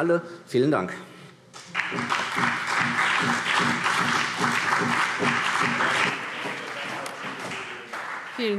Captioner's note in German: Beifall